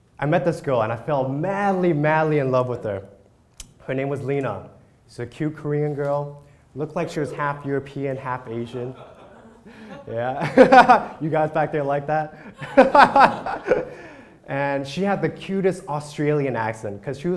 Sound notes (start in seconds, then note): 8.7 crowd laugh; 12.4 laughs